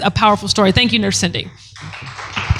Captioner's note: applause